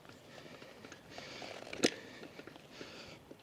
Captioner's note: tire grinding